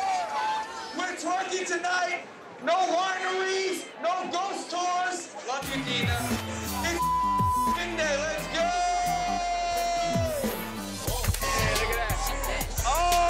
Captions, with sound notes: We're 20 tonight. No wineries, no ghost tours. Love you Deena. It's (beep) Vin Day Let's go! (upbeat club music)